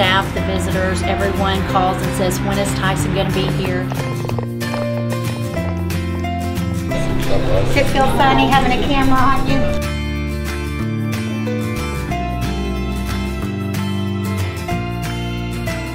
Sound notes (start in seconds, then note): 3.2 footsteps clicking on floor; 10.1 upbeat guitar music